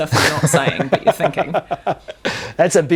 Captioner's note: laughs